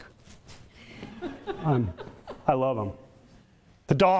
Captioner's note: audience laughter